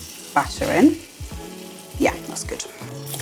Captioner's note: sizzle